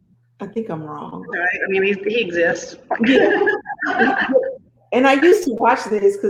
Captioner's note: laughs